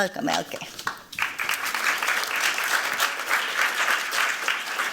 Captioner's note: applause